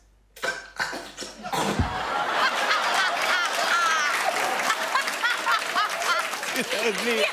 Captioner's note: laughter and applause